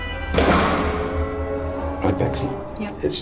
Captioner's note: door slams